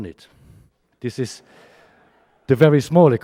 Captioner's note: audience chuckles